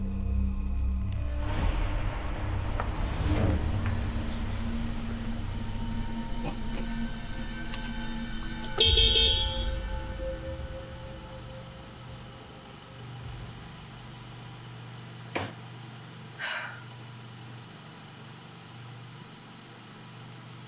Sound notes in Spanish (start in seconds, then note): 0.1 la música misteriosa continúa; 8.9 bocinazo; 16.4 Debra suspira